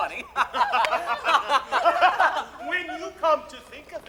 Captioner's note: laughter